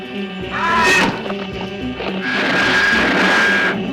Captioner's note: groaning; clanking; zooming